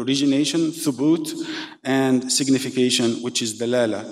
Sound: speaking in foreign language

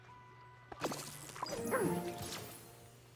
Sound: Donald Grunts

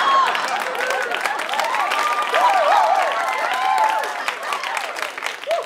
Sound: applause

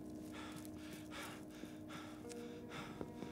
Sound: panting

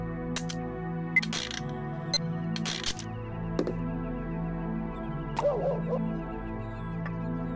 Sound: machine beeps; wheel squeaking

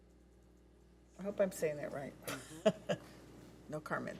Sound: laughs

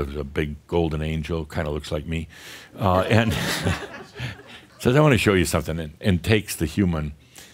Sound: more chuckles

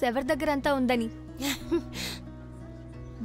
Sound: laughs

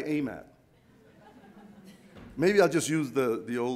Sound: audience laughs

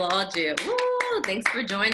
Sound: cheering

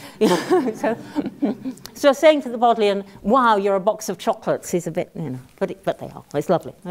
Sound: laugh

